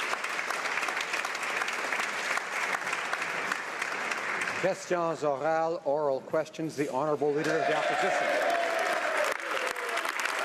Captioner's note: some Applause